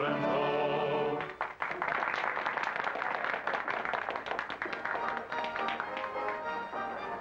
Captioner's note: applause; upbeat music